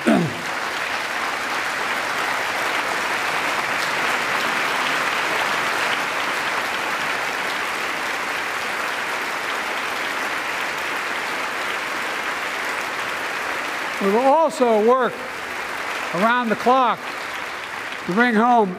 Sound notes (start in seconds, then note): 1.7 applause